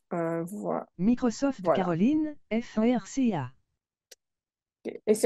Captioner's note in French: Voix synthétique 2